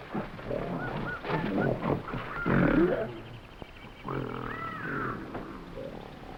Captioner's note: animals chattering; gorilla grunting